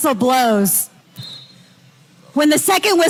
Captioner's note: whistle whistling